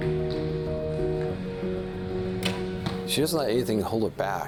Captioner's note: arrow hitting target